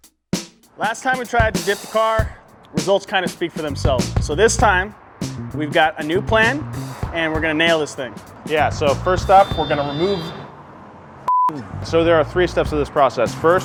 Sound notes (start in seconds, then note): 0.8 upbeat music; 11.2 beep